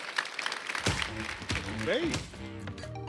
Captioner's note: applause